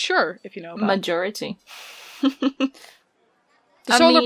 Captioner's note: laughs